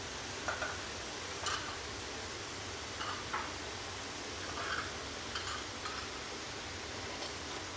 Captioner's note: the noises of A/C and the fan are quite loud